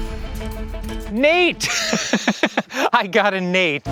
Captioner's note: laughs